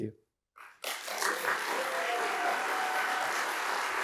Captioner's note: applause